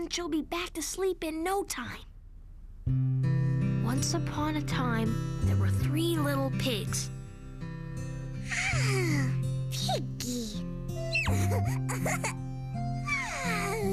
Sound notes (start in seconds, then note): 8.4 yawn; 11.1 giggle; 13.0 yawn